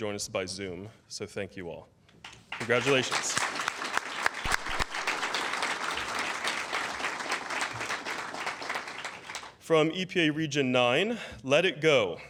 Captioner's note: applause